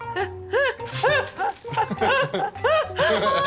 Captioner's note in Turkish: Erkut gülüyor